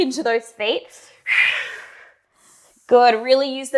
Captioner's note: breathing sharply